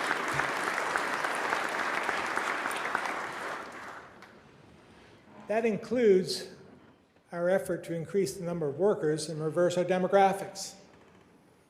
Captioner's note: applause